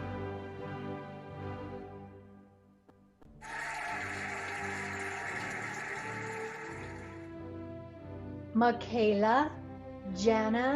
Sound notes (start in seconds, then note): 3.4 cheering and applauding